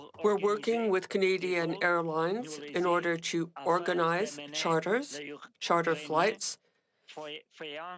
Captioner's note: speaking French